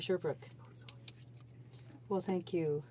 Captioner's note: speaking French